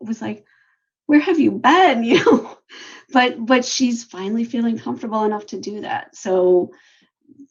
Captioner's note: laughs